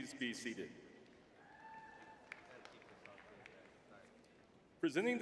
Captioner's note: crowd cheering